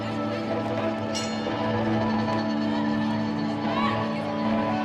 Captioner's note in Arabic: رنين الجرس